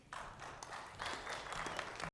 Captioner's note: audience clapping